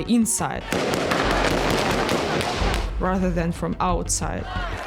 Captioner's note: gunfire echoing, shouting